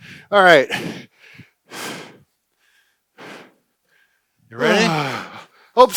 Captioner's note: breathing heavy